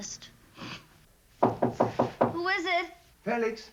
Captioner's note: knocking on door